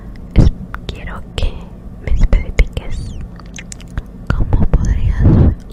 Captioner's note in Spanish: Susurros